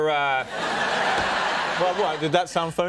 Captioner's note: audience laughing